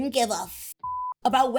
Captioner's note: beep